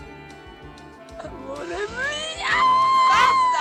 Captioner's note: screams